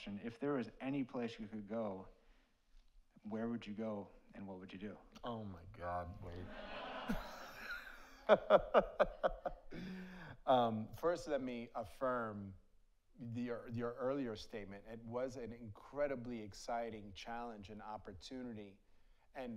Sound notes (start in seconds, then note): 6.4 audience laughs; 8.2 laughs